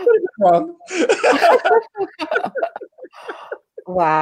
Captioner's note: laughing